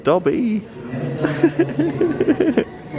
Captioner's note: laughing